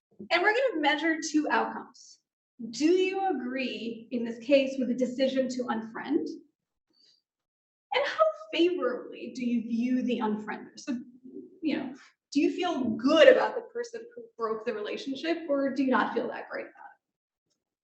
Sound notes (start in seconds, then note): none